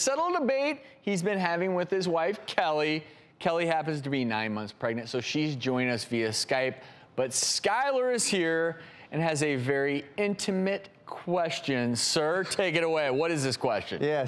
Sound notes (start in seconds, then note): none